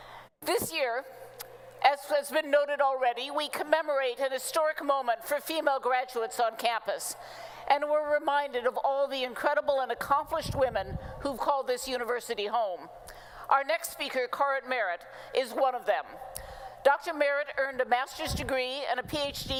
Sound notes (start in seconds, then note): none